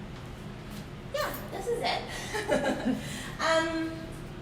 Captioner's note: laughing